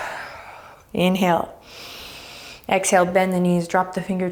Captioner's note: deep breaths